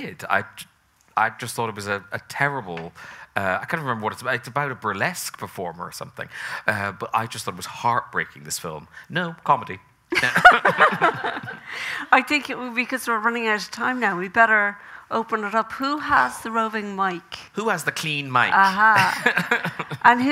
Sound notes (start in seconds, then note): 10.1 both laughing; 10.2 audience laughing; 18.9 chuckles